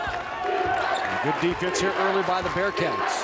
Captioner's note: crowd chants